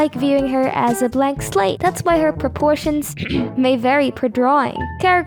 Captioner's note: ahem